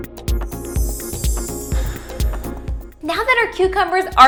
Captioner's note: electronic music; chiming